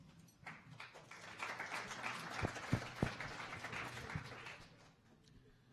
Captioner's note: audience applauding